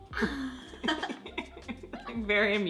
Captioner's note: laughs